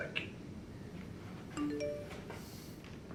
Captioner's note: text Message Rings